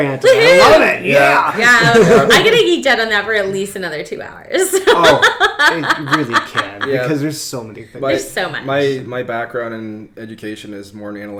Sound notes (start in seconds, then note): 4.6 laughs